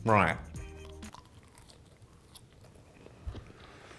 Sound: chewing

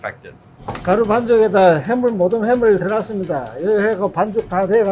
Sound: speaking in Korean

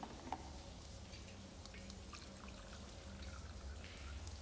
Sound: none

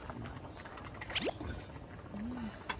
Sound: slurp

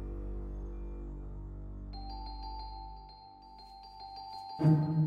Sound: sporadic percussion: sharp wooden sound; bells

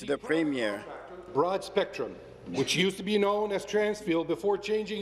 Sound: speaking in French

